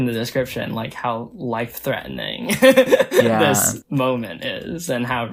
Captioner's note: laughs